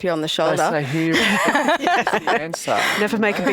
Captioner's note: laughs